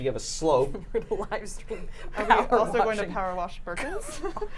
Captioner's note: laughs